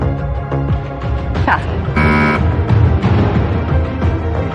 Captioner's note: buzzer sounds